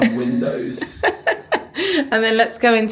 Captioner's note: laughing